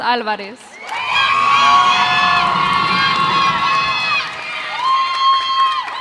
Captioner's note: cheers and applause